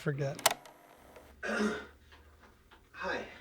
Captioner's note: graphic clicks